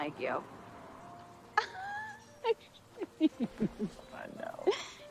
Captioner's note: laughs